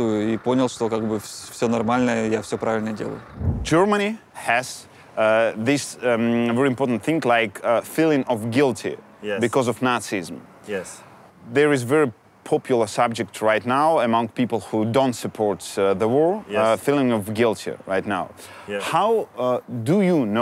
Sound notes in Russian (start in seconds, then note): 3.4 говорят по-английски